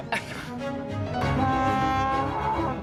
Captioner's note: blaring